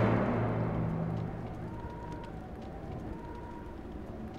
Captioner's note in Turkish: Alev sesi